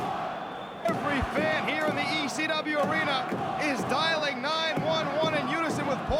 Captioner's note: crowd cheering